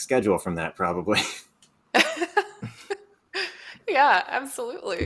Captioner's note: chuckling